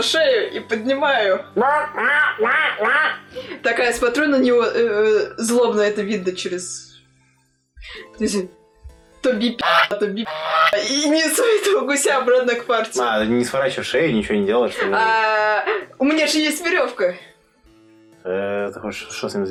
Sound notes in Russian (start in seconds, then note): 1.6 звуки паникующего гуся